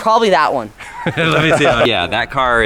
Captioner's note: laughing